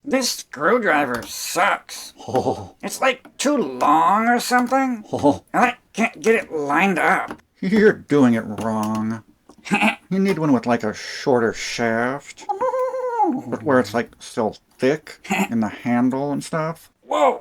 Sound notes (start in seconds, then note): 2.1 chuckling; 9.6 chuckling; 12.4 chuckling